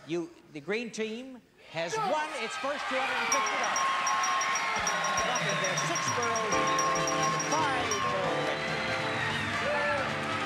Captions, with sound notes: The green team has won its first $250. [bell dings] [audience cheers]